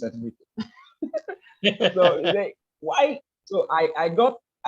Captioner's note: laughs